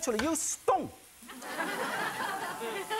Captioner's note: audience chuckles